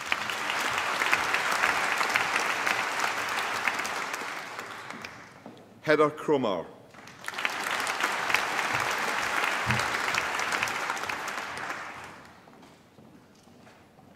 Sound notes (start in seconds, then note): 0.0 applause; 6.9 applause